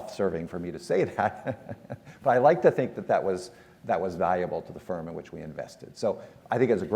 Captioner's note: laugh